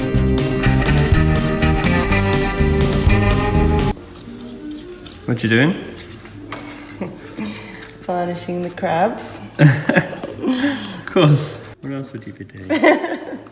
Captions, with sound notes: — What are you doing? — Varnishing the crabs. — [Laughs] Of course. What else would you be doing?